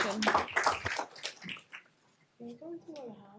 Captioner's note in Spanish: aplausos